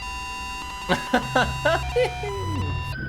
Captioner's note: laughs